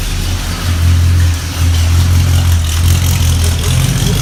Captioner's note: car engine roaring